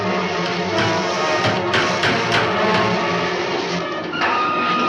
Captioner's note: hammer thuds; dramatic music continues